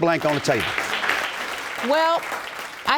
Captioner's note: audience applauding